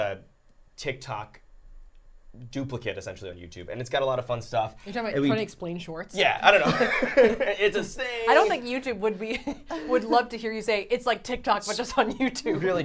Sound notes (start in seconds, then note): 6.6 both laughing